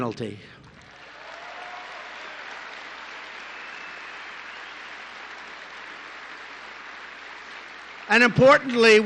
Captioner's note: applause